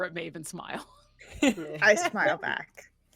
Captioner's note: person laughing